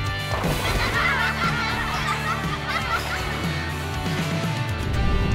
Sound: kids laughing

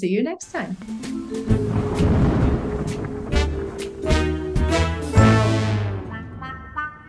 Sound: ominous music; thunder booming

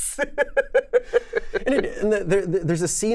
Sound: laughs

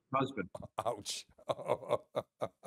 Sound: laughs

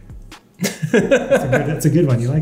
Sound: laughing

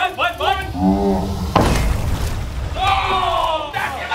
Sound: explosion

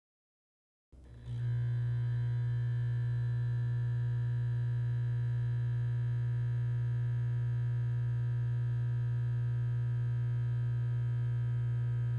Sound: bbzzzzzzzzzzzzzzzzzzzzzzzzzzzzzzzzzz

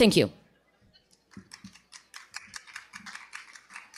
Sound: applause

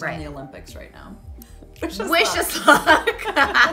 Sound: laughing

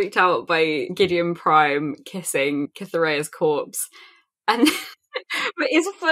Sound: laughing

